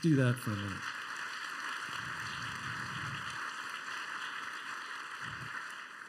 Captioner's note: applause